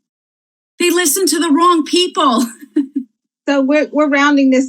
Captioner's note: laughs